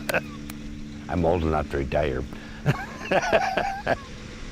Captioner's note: laughs; laughs